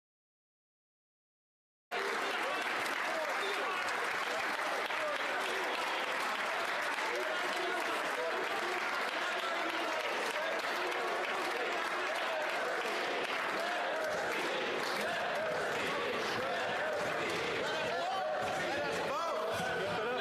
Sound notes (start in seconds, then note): 6.9 cheers and Applause